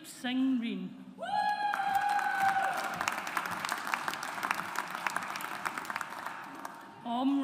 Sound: audience applauds

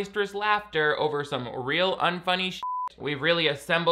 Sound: beep

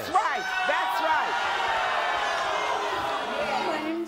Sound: audience boos

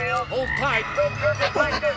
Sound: croaking

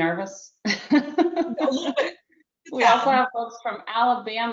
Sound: laughs

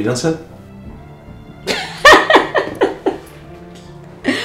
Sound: laughing

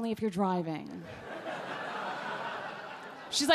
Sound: audience laugh

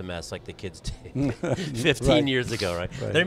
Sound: laughing

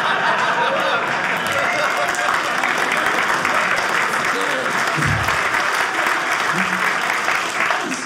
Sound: audience cheering

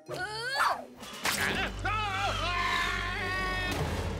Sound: screaming

